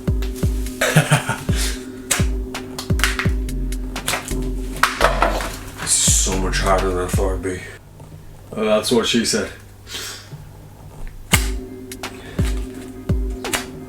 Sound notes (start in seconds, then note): 0.6 laughs; 2.2 snaps; 9.9 snaps; 13.6 snaps